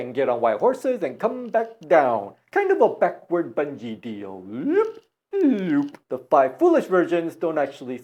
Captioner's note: sound: Loooop, loooop